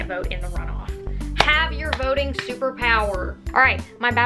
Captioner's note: clap